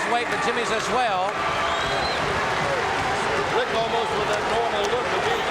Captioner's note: audience cheering